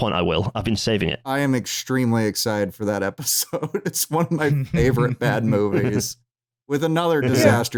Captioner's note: laughing